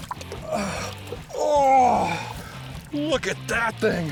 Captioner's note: grunts